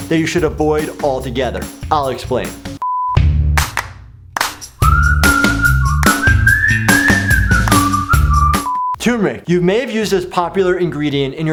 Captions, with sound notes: that you should avoid all together? I'll explain. (color bars beep) (upbeat music) Turmeric, you may have used this popular ingredient